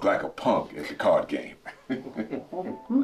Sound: laughing

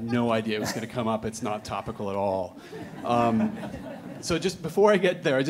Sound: audience laughing

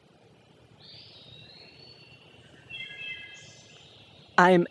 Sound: wild bird singing

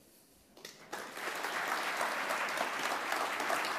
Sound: applause

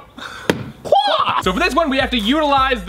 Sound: high-pitched wailing

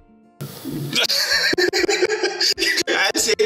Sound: laughs

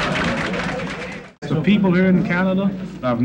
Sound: crowd laughs

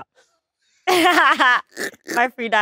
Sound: Letitia laughs

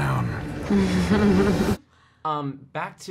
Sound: chuckles

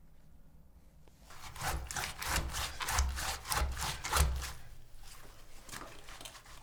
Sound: the sound of washing shoes in water

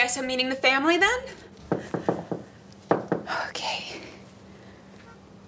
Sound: knocks

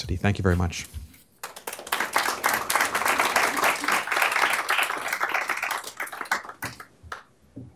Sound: applause

